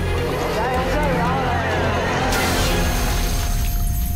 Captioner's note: cheers and applause